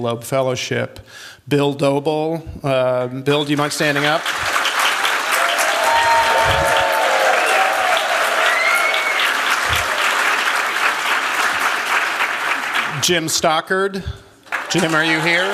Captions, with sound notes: Fellowship. Bill Doebele Bill, do you mind standing up? [cheers, applause] Jim Stockard. Jim, are you here?